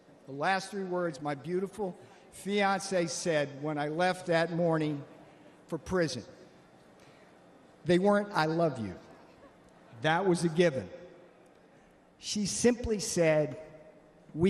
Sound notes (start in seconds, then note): none